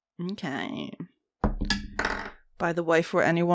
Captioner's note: satisfying dice thunk